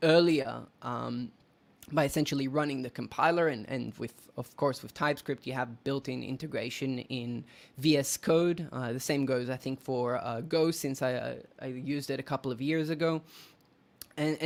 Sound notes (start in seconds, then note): none